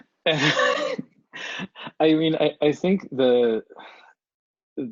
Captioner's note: laughs